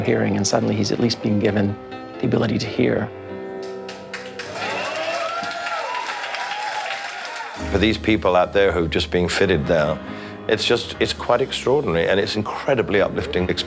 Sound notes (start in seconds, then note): 4.1 cheers and applause